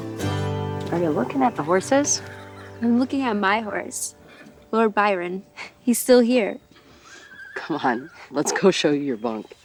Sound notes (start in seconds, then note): 7.0 horse whinnying